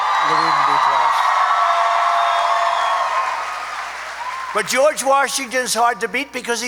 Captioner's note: applause